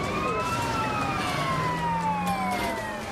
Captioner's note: police sirens